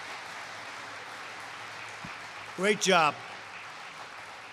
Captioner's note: applause